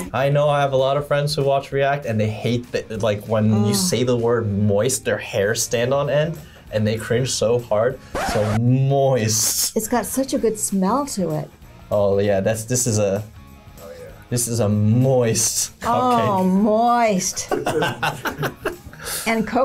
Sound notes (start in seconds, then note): 8.1 record scratches; 17.4 laughs